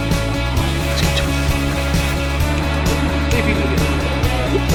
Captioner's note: background talking